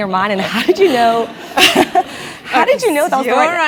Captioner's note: laugh